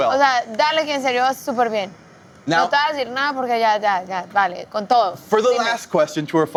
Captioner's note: talks in foreign language